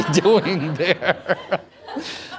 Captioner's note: laughter